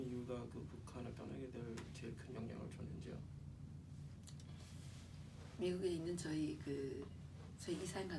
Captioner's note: speaking korean